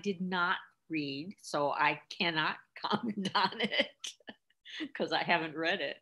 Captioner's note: chuckles